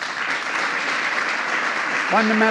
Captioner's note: applause